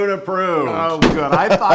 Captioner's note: laugh